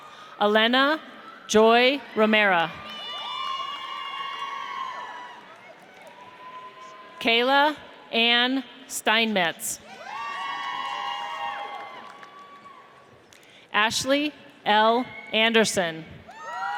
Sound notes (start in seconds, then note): 3.1 audience cheers; 10.0 audience cheers